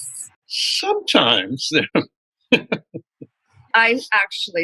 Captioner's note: laughter